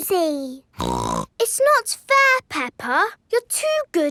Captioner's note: snorts